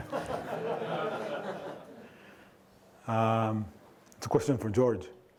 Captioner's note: audience laughing